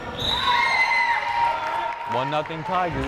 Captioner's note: whistle blares